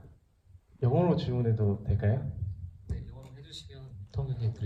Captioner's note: speaks in foreign language